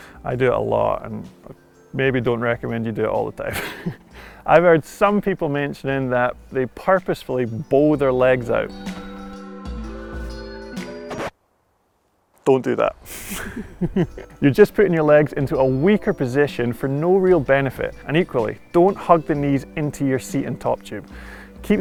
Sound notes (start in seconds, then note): 3.4 giggles; 9.0 calm upbeat music; 11.1 music screeches; 13.2 giggles